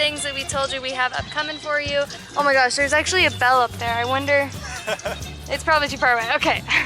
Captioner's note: laughter